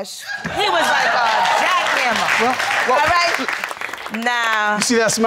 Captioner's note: audience cheering